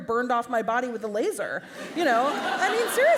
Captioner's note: laugher